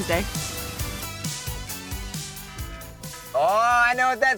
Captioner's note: alarm buzzing